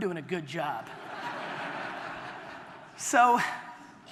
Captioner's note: audience laughter